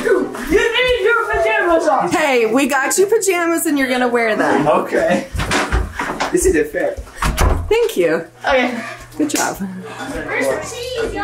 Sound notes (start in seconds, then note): 5.4 laughs; 10.2 family chatters excitedly